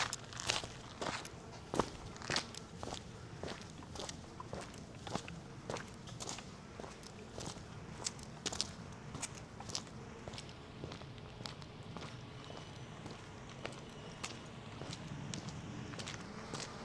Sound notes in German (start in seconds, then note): none